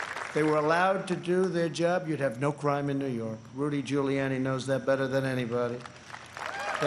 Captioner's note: applause